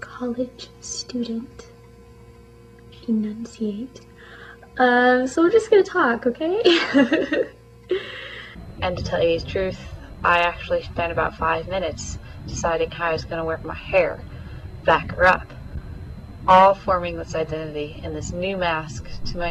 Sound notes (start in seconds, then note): 6.7 laughs